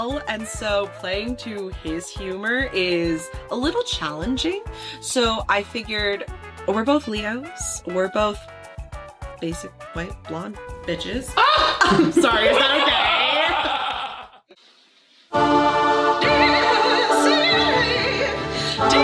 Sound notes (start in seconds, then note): 11.3 laughing; 11.4 scream gasp; 16.2 singing opera